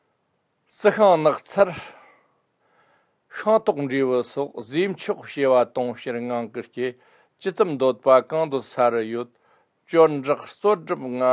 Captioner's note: tibetan